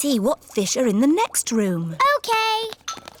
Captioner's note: none